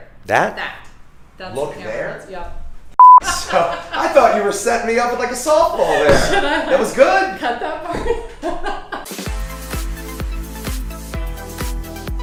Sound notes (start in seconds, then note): 3.0 beep; 3.8 laughing; 8.7 laughing; 9.2 electronic music